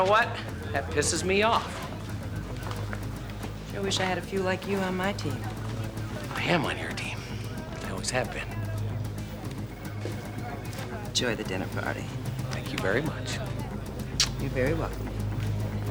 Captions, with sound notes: And you know what? That pisses me off. I wish I had a few like you on my team. Iamon your team. I always have been. Enjoy the dinner party. Thank you very much. (kisses) You're very welcome.